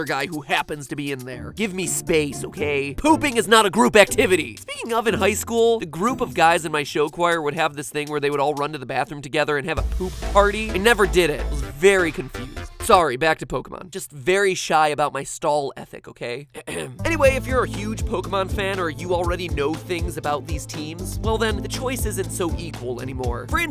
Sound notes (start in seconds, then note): 16.5 clears Throat